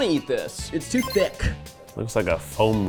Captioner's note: text pinging